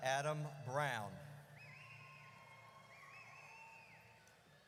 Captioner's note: audience cheers